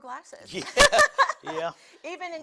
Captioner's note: laughing